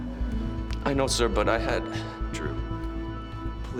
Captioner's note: sighs